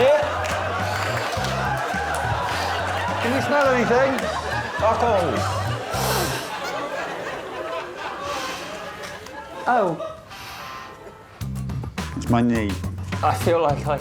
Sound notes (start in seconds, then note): 3.8 shouting; 5.8 sniffs; 8.9 sniffs